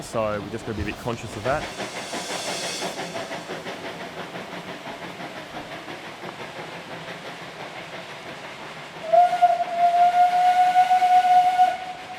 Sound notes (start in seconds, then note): 2.2 train steam chugging; 8.8 train whistles